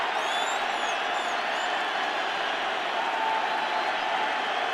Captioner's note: cheering